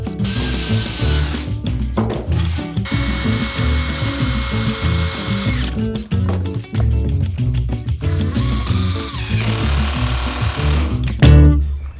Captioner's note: drilling